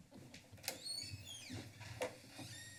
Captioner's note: door creaks